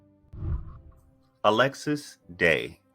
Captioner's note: whooshing